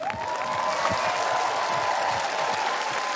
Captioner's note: cheering, applause